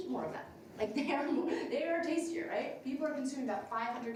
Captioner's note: laughs